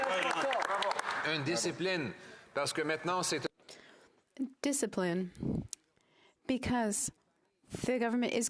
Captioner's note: applause